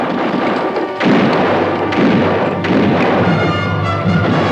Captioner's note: guns fire